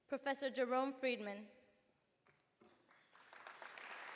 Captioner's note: applause